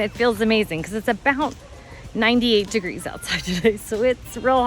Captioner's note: chuckles